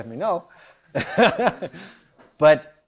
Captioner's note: laughs